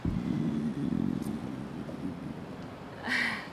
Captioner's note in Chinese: 腹鳴